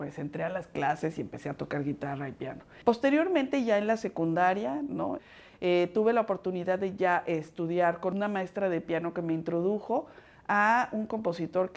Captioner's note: speaking Spanish